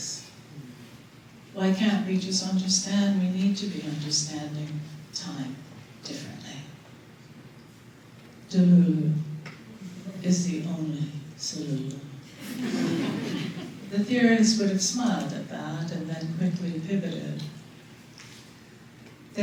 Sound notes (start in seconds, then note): 12.4 laughter